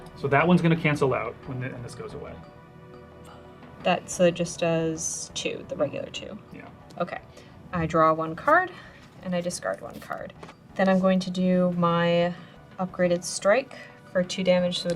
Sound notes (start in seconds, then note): none